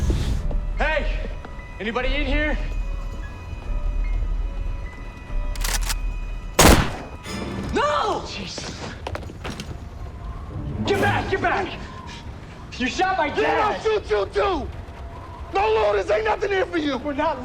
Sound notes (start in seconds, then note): none